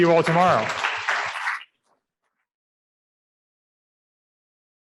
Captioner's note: audience applauding